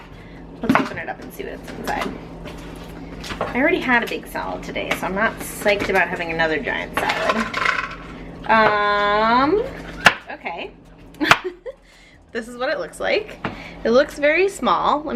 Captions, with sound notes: Let's open it up and see what's inside. I already had a big salad today, so I'm not psyched about having another giant salad. Okay. (laughs) This is what it looks like. It looks very small.